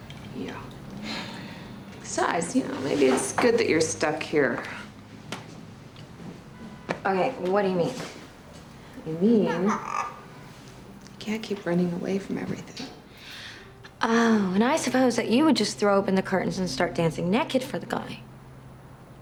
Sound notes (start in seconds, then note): 1.0 sighs; 9.4 kitty squawks